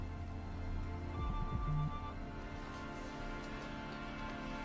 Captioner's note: phone ringing